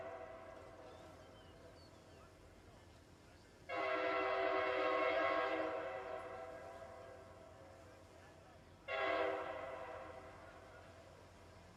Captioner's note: train horn